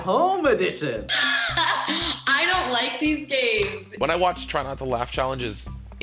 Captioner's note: laughs